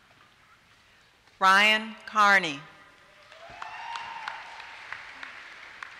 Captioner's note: applause